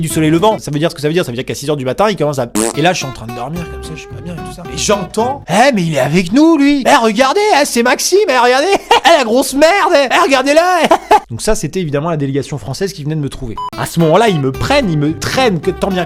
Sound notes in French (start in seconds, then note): 2.5 bruit de bouche; 10.8 rire